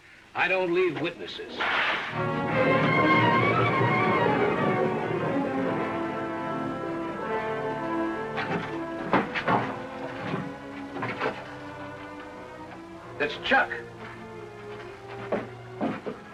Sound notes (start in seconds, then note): 1.6 cracking whip; 2.3 classical music